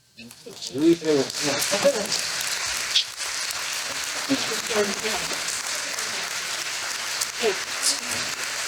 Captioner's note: applause